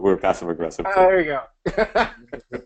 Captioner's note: laughs